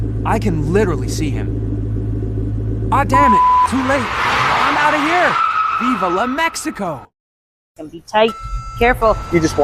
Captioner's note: screaming